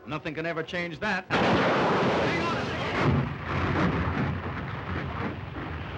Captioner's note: loud crashing sound